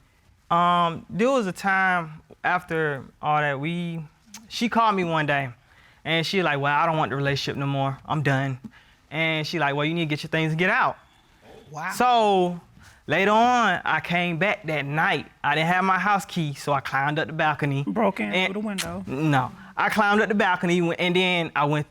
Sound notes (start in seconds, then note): 18.7 clicks tongue